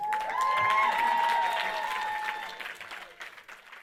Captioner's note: audience cheering and applauding